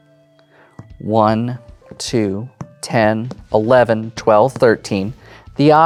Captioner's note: taps table while counting